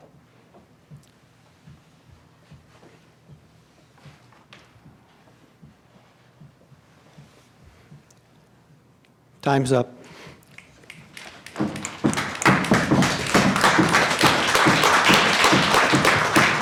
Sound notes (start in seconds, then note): 10.5 applause